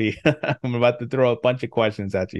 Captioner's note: laughs